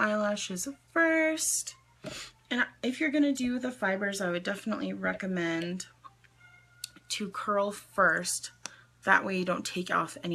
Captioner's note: sniffs